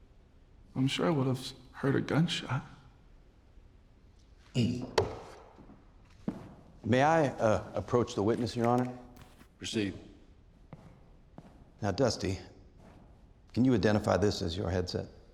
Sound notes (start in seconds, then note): 4.7 taps banister; 5.4 footsteps